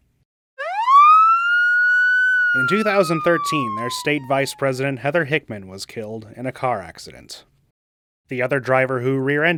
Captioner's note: sirens